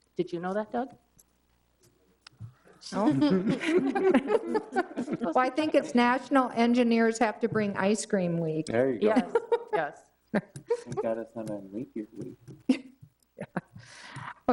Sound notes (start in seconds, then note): 3.0 all laughing